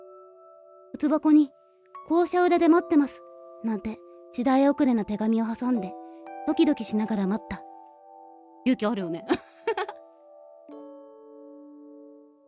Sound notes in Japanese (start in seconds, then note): 9.3 笑い